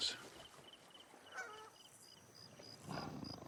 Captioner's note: honking; grunting